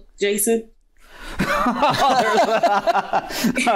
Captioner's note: laughter